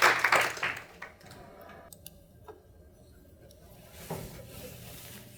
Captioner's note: applause